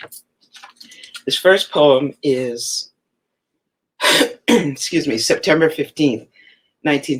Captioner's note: coughs